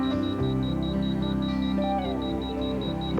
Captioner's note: beep beep beep